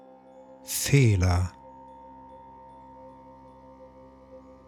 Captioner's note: german